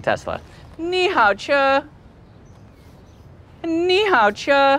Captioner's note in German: spricht auf Mandarin